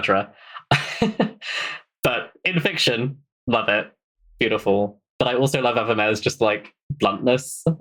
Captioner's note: laughs